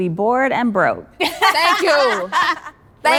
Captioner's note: all laughing